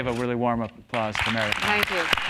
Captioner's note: applause